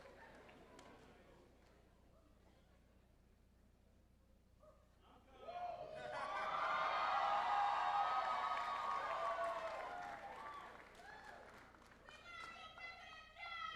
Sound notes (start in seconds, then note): 2.0 applause